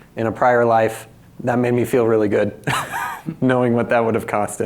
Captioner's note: laughs